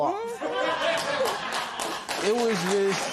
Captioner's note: laughter and applause